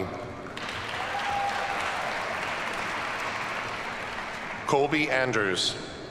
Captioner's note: audience cheers and applauds